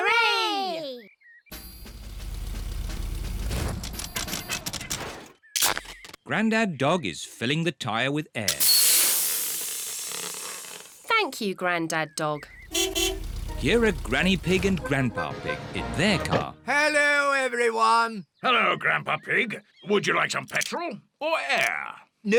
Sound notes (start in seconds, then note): 8.5 air hissing; 12.6 horn beeps